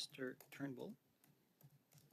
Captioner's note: speaking French